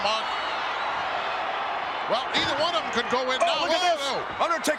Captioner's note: crowd cheers